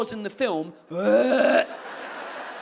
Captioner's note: wretching noise